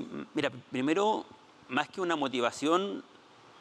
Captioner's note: speaking Spanish